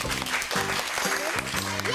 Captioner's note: applause